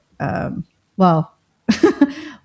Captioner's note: laughter